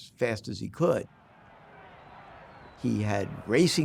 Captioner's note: distant cheering